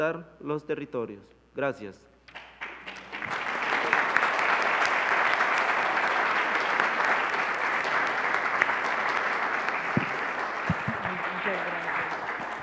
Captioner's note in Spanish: Aplausos